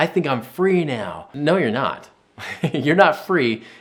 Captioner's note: laughing